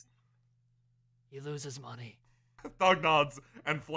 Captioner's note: quietly